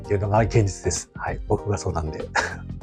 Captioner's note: laughs